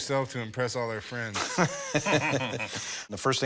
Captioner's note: both chuckle